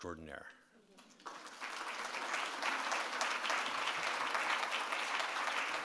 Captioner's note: audience applauds